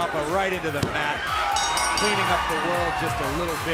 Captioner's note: bell ringing